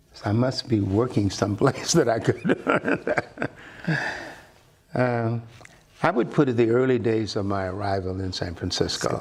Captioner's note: laughter